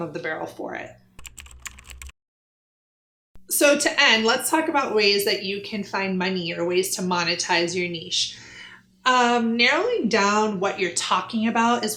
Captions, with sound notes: of the barrel for it. (keyboard typing) So to end, let's talk about ways that you can find money or ways to monetize your niche. I'm narrowing down what you're talking about